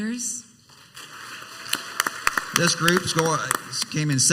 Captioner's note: crowd applauds